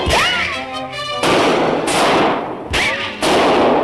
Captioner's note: gunshots